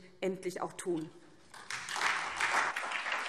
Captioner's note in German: Beifall SPD